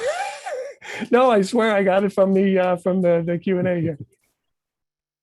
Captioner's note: laughs